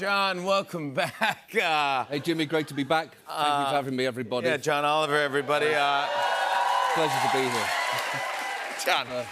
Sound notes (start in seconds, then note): 5.4 cheers and applause